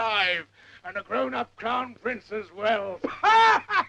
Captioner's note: laughs